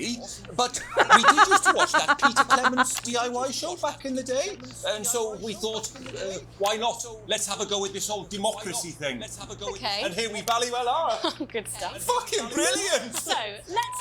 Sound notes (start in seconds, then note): 0.8 laughs